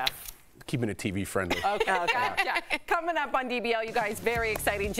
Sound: laughter

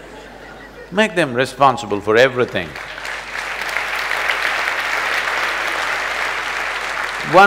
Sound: applause

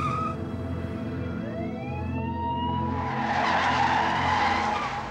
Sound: screeching tires; police sirens

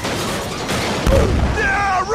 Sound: Roblox Death Sound

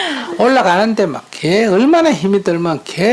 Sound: audience Laughter

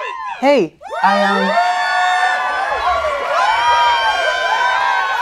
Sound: audience cheers

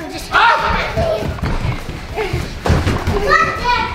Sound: shouts

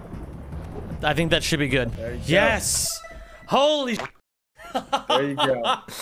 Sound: laughs

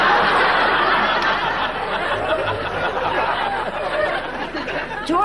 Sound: audience laughing

